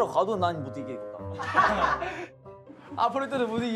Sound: laughing

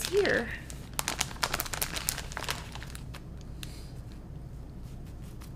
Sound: paper rustling

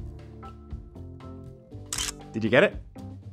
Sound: camera shutter

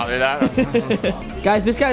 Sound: laughter

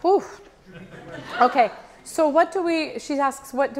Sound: audience laughs

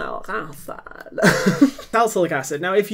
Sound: laughing

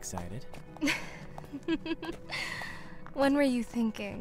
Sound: laughs

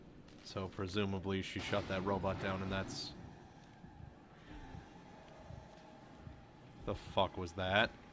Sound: clattering noise

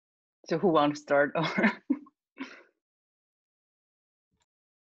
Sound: chuckling

